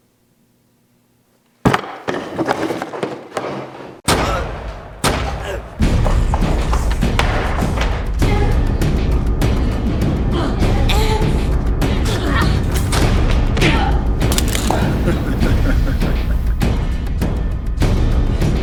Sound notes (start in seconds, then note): 4.3 gun firing; 8.4 both grunting; 8.4 suspenseful orchestral music; 15.7 Faizan laughing